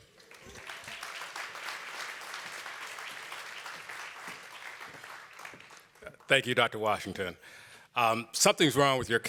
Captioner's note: applause